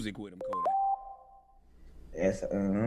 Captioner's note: phone chimes